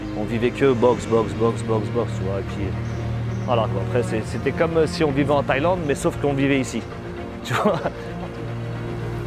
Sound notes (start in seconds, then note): 7.4 laughs